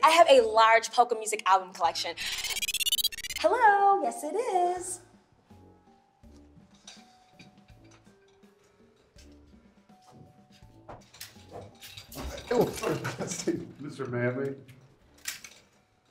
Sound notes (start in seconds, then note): 2.2 phone rings; 5.2 mellow music